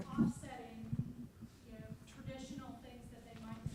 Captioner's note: voiceover